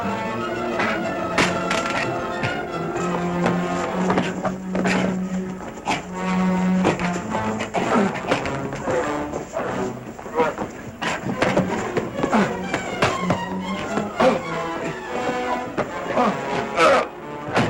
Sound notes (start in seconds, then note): 1.3 gun clatters; 4.5 grunting